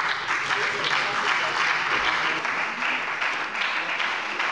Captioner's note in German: Beifall bei der FDP und der SPD